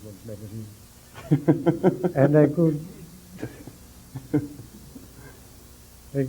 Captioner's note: isolated laughter in room